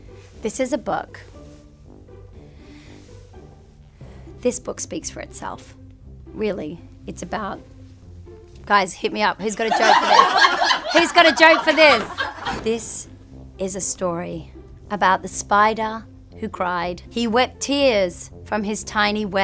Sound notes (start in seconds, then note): 9.6 laugh